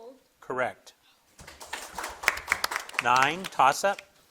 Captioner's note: crowd claps